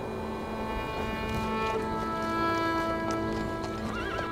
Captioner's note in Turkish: Rüzgâr sesi; Ayak sesleri; At kişneme sesi